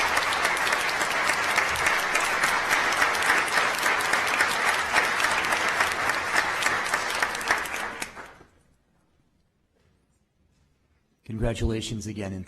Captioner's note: applause